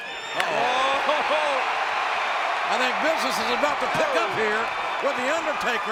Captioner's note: laugh